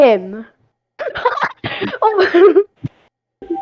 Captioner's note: laughing